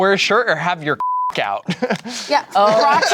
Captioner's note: beep